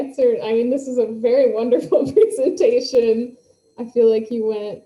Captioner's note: laughs